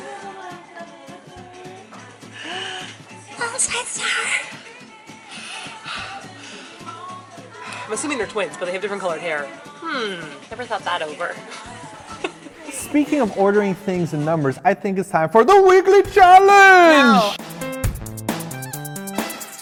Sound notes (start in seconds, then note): 2.3 gasps; 11.5 laughs